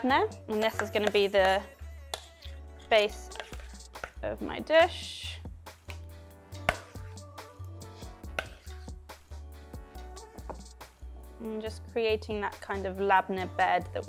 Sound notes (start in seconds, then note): 5.8 soft upbeat music; 5.8 spoon clanking